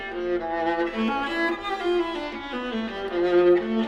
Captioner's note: none